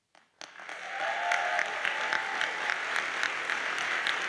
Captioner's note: audience applauds